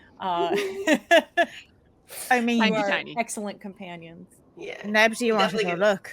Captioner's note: laughs